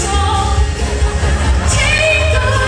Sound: audience laughter

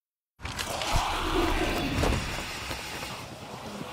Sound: creatures screeching

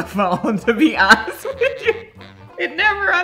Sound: laughs

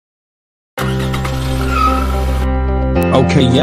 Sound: car pulls over

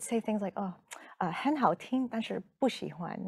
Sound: speaking in Mandarin

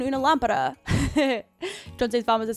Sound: laughs

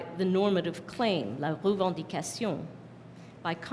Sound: non-english speech

